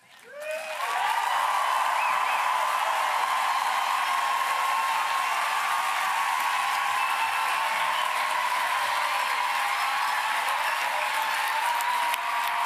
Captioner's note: applause